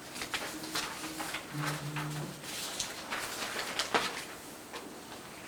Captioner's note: documents shuffling